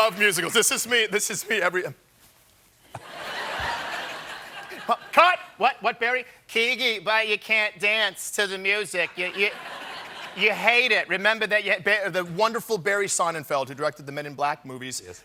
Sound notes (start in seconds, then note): 2.9 laughter